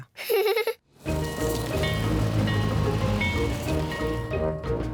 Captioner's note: giggles; bell tolls